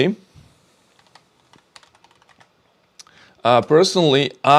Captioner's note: keyboard clicking